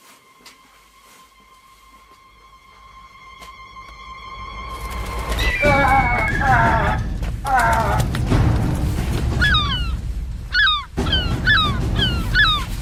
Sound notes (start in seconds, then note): 0.2 dramatic music increasing; 4.2 wings flapping; 5.0 gull screeching; 10.4 gull squawking